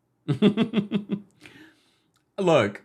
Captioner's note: chuckles